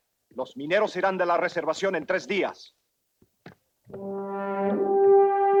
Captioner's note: Ramirez speaks Spanish; moody orchestral music